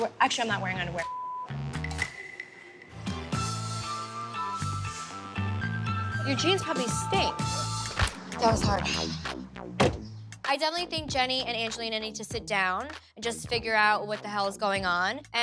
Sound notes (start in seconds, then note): 1.0 beep; 2.1 upbeat music; 9.8 car door closing